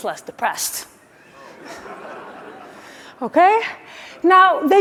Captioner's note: laughing